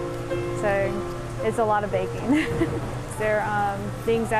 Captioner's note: laughs